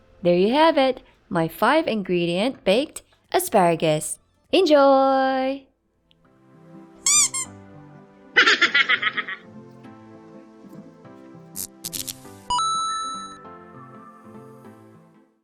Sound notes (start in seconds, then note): 6.6 chipmunk laughing; 7.0 toy rubber duck squeaking